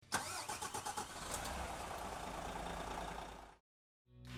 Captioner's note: car ignition starting